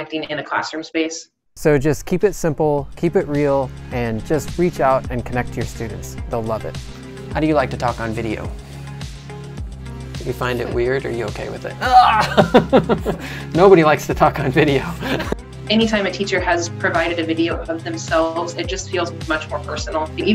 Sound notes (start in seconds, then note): 11.8 grunt